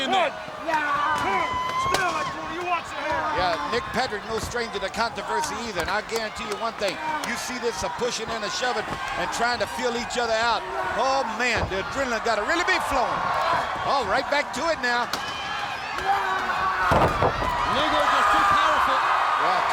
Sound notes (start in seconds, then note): 1.2 wrestlers grunting; 11.6 body thudding; 12.9 crowd cheering; 13.3 footsteps plodding; 16.8 body thudding; 17.4 wrestlers grunting; 17.7 Lex screaming; 17.7 crowd cheering